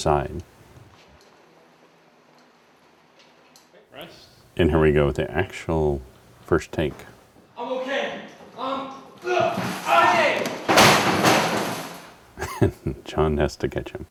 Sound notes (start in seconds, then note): 10.5 grunt and slam; 12.3 chuckle